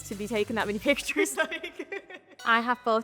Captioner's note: laughs